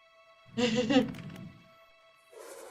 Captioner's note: laughs